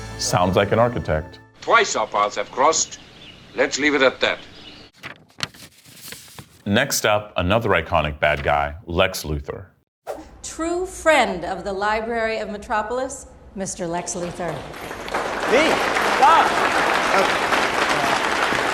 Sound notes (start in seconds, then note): 14.6 crowd applauding